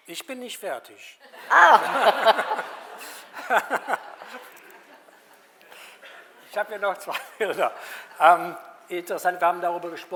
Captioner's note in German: Alle lachen